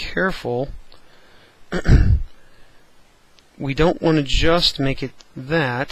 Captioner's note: cough